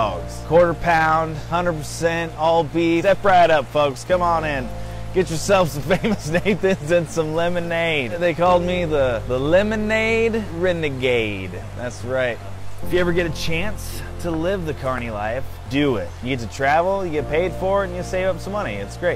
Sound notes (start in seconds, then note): 5.7 laughing